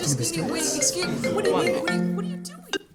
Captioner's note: students panic; phone rings